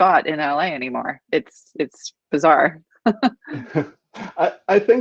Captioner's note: laughing